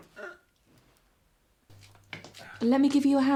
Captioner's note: Michael grunting